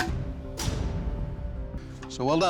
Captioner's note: thudding